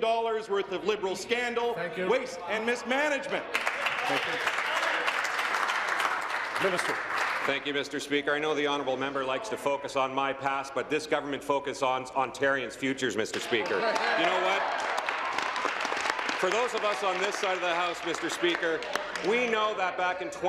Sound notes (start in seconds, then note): 7.5 applause